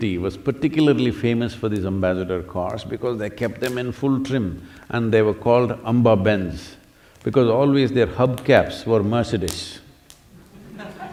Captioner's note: laughter